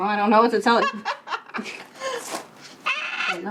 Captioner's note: laughing